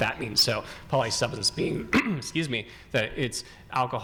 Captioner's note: coughs